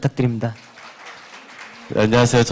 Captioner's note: claps